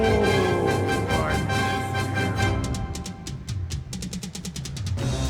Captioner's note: threatened voice